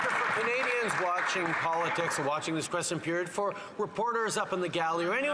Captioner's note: some Applause